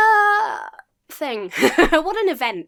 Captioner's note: laughs